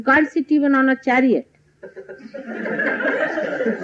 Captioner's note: laughter